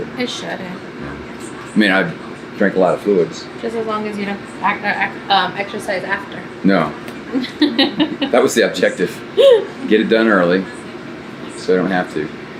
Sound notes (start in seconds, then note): 7.3 laughs